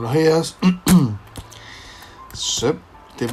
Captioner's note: clear cough